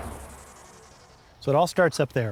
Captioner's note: car engine whirring